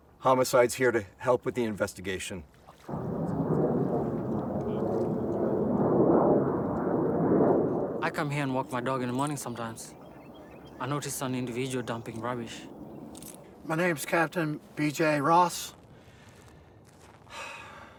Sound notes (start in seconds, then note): 2.8 wind whooshes; 17.3 sighs